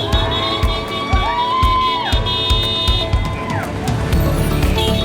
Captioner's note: horns honking; crowd cheering